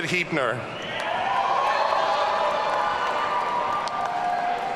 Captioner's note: audience cheering